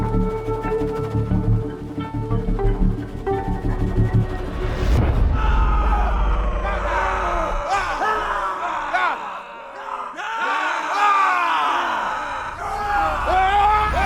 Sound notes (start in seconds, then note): 6.1 all shouting